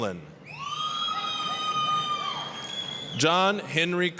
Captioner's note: applause, cheering